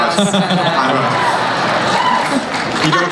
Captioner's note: laughing